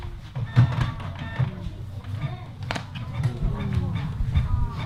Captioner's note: printer squeaks